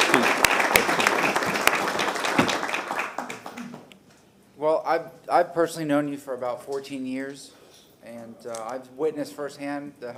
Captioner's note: applause